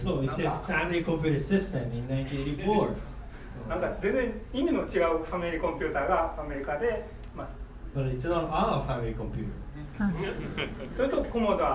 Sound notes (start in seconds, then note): 3.8 speaking in foreign language; 10.0 giggling